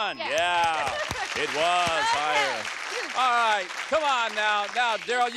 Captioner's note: applause